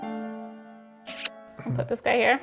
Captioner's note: kiss sound